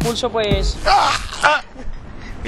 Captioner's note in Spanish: Gritos